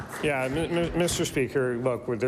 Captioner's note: applause